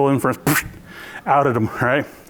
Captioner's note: blows raspberry